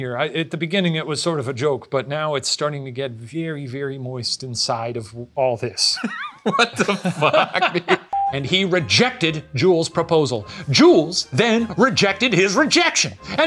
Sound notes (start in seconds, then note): 6.0 laughing